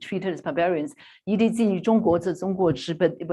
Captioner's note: non-english speech